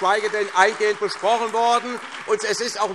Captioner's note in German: Beifall SPD, Freie Demokraten und DIE LINKE